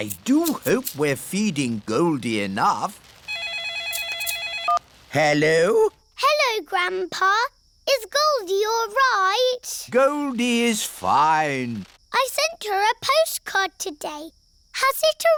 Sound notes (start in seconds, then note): 3.3 phone rings